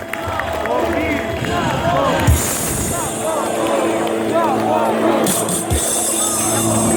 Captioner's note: crowd chanting